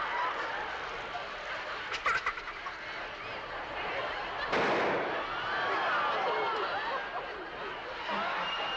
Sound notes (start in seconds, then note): 4.5 bang